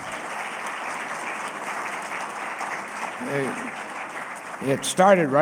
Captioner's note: applause